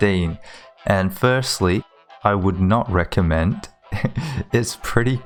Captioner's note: chuckles